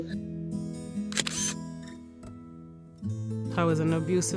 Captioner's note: camera shutter